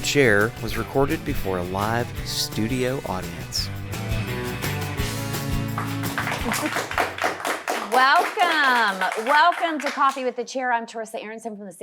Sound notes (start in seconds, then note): 3.6 upbeat rock music; 5.3 audience applauding